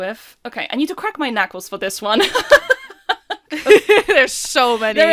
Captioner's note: laughing; laughs